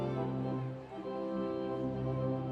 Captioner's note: none